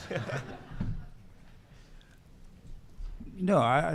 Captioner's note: audience laughing